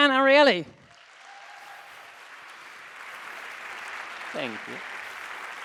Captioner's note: audience applauding